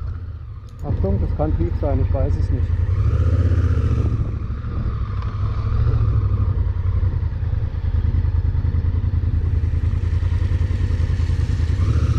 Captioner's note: engine noise